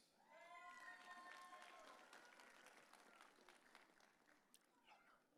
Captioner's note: audience cheering